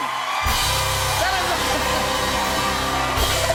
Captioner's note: cheers and applause